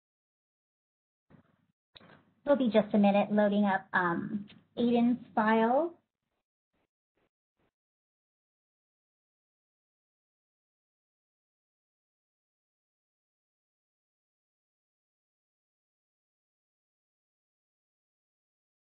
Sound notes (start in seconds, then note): 10.6 long silence